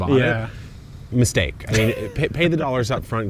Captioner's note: chuckles